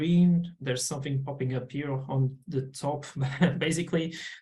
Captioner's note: chuckles